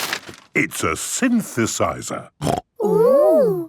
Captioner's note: snorting